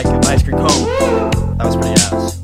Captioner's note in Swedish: auhhh!